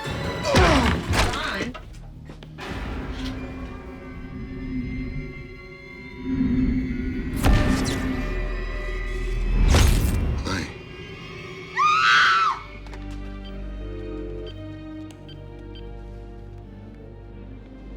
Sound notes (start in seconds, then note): 11.6 screams; 12.9 dialing